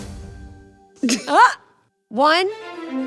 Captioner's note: Kathryn laughs